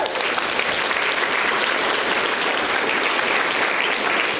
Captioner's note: audience applauds